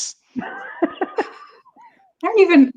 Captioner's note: laughing